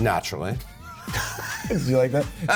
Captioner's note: laughter